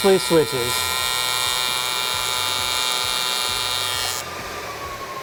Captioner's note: torch buzzing